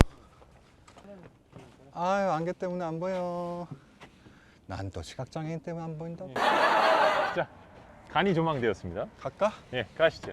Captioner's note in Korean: 하 하 하